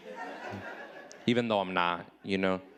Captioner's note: audience laughing